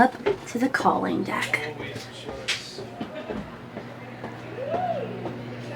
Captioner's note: chatter